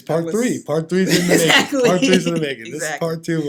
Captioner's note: laughing